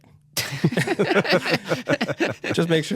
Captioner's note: laughter